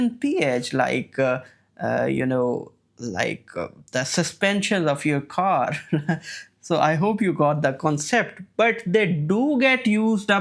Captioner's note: chuckles